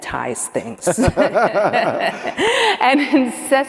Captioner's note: laughing